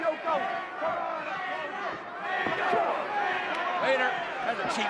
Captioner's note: audience chanting